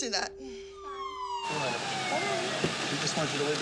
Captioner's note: police sirens wailing